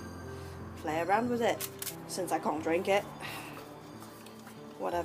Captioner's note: sighs